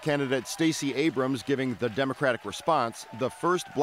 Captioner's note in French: cheers and applause